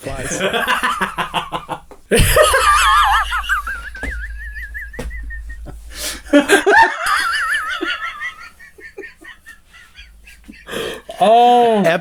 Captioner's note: laughter